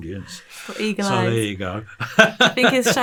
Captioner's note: laughing